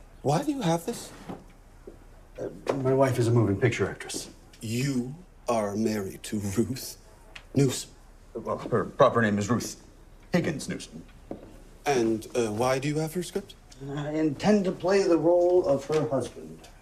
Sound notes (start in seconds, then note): none